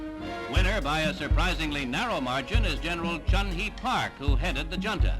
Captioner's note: soundbite of archived recording